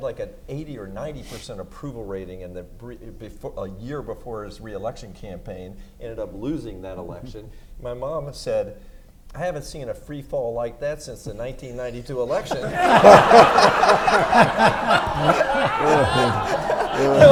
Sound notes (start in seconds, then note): 12.2 everyone laughs